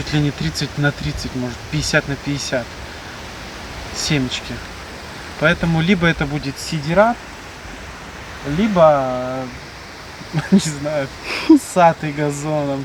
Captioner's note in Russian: фыркает